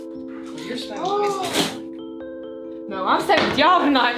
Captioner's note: people mumbling